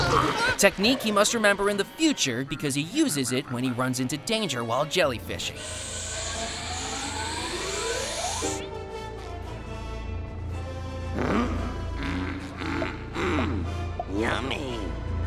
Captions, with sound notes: A technique he must remember in the future because he uses it when he runs into danger while jellyfishing. [gasping] Mmm mmm mmm. Yummy.